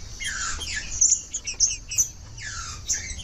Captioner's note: trinca ferro cantando